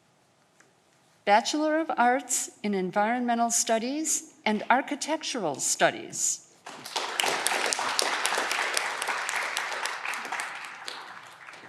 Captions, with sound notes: Bachelor of arts in environmental studies and architectural studies. (audience clapping)